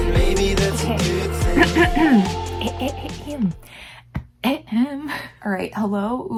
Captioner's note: starts coughing